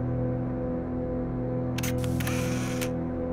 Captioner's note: camera click